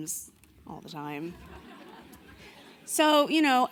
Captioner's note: audience laughing